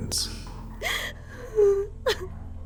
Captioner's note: soft weeping